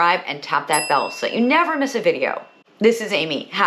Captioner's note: bell dings